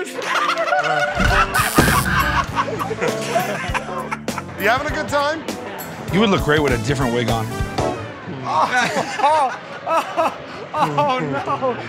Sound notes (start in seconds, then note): 0.0 laughter; 1.3 buzzer; 8.5 laughs